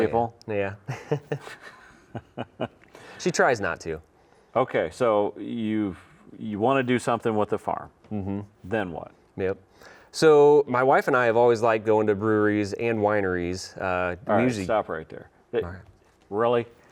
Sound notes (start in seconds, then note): 0.8 both chuckle